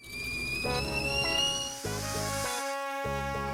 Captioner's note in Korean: 삐익